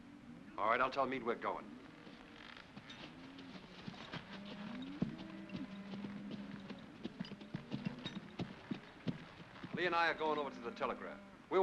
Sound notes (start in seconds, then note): 3.5 hooves trotting; 4.0 cattle moo